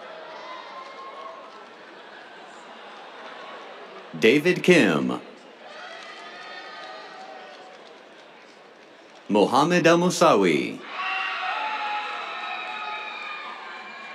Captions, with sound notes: David Kim. [CHEERS, APPLAUSE] Mohamad Elmoussawi. [CHEERS]